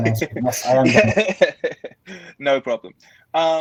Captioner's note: laughing